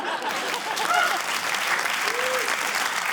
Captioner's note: laughter, applause